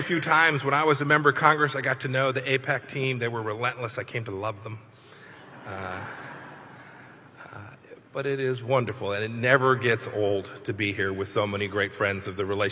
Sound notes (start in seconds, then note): 5.3 laughter